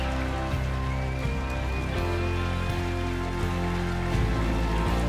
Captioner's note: cheers and Applause; speaking French